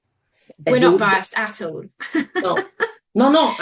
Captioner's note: laughs